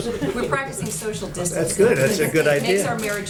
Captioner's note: laughter